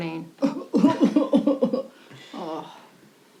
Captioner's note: Natalie fake coughing